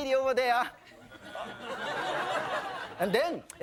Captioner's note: audience laughing